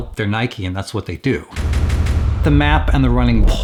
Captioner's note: repetitive bangs